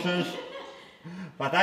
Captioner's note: both: laughing